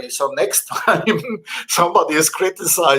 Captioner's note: chuckles